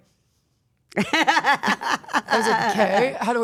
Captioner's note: Stephanie laughing